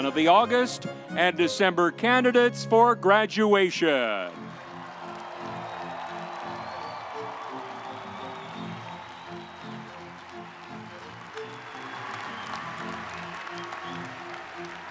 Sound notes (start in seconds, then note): 4.5 audience applauding; 11.0 audience cheering